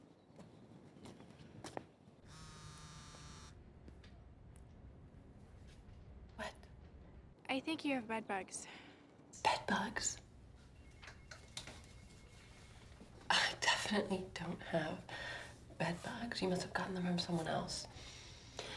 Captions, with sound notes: (phone buzzing) - What? - I think you have bedbugs. - Bedbugs?! I definitely don't have bedbugs, you must've gotten them from someone else.